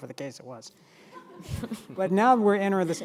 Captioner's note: audience laughing